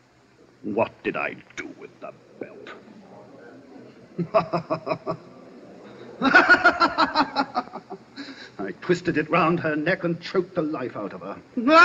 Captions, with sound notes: What did I do with the belt? [LAUGHTER] I twisted it round her neck and choked the life out of her.